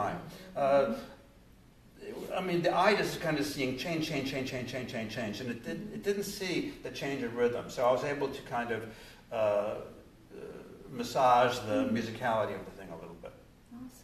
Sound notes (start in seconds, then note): none